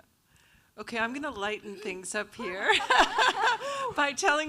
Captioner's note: laughs